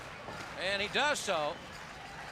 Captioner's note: crowd cheering